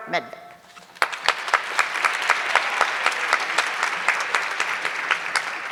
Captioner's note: audience clapping